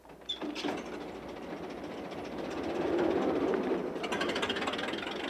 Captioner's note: engine rumbling